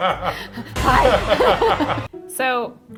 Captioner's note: laughs